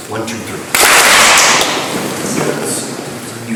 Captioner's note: clap